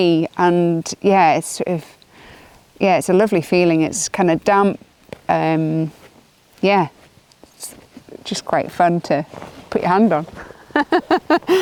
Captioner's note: laughs